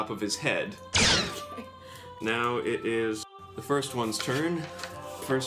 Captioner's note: blaster fires